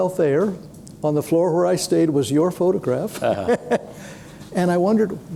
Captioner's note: chuckles